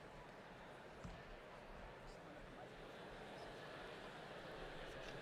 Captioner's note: people chattering distantly